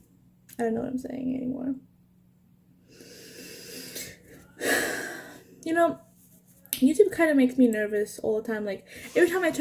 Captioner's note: sigh